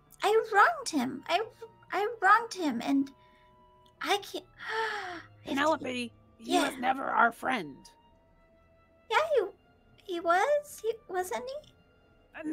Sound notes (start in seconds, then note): 4.6 gasps